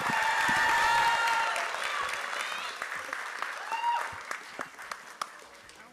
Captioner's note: applause